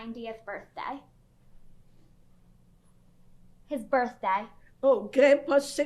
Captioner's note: pauses for 3 seconds